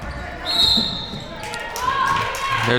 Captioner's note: whistle blows